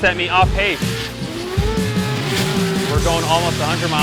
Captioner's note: engines revving